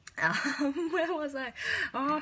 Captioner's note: laughs